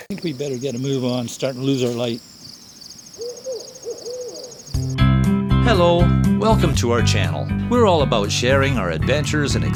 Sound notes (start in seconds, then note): 2.3 crickets and owl hoot